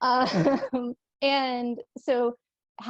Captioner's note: laughter